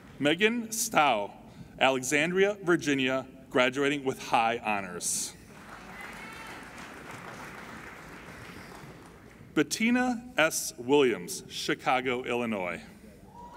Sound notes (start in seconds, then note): 5.4 applauding